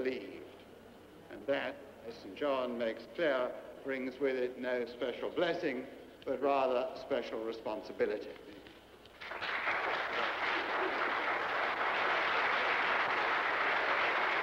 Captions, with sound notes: And that, as St. John makes clear, brings with it no special blessing, but rather special responsibility. (hands clapping)